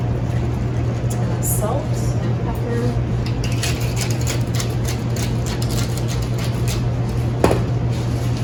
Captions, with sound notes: Salt and pepper [pepper crunching as it is ground]